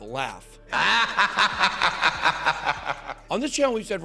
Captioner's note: evil laugh